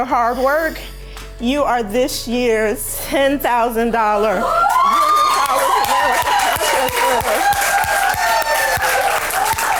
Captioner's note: cheers